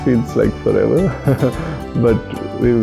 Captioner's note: laughs